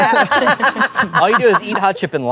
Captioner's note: everyone laughs